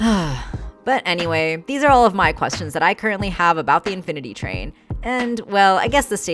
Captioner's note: sigh